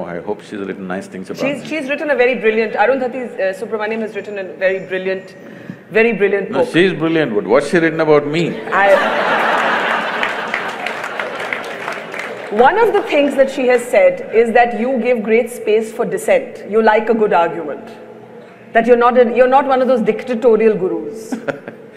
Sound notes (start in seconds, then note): 8.8 laughter/Applause; 21.3 Sadhguru laughs